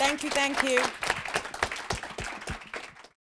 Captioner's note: applause